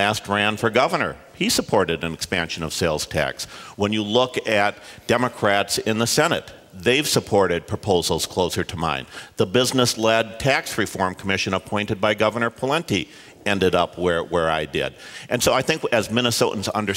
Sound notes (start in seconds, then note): none